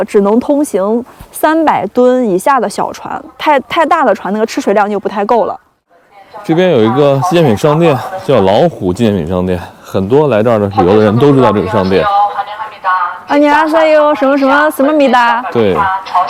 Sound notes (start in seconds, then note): 11.4 Korean